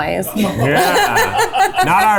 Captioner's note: laughing